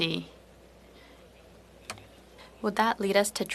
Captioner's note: speaking French